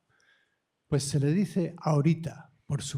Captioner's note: speaking spanish